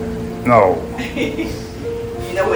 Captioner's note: background laughter